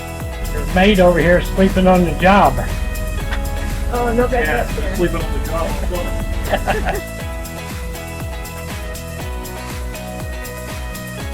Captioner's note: talking, Joking and Laughing